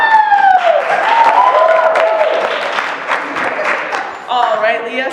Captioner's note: cheering; applause